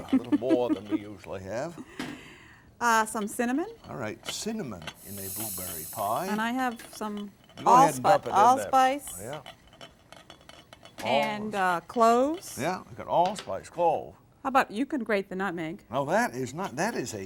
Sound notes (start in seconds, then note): 2.3 chuckles